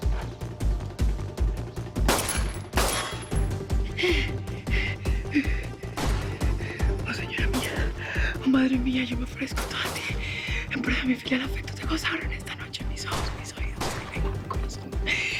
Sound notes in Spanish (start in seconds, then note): 2.0 Disparos; 3.8 Respiración agitada; 9.5 Disparos